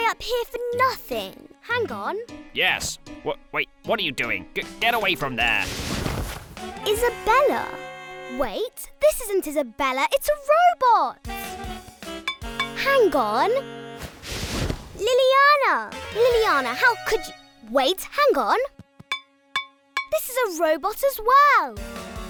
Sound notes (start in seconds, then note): 12.2 metal clinks; 19.5 metal clinks; 21.7 thwarted music